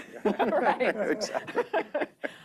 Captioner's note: laughter